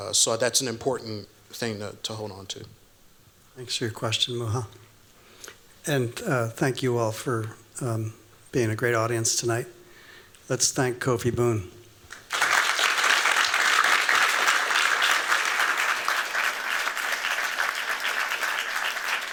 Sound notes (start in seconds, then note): 12.1 applause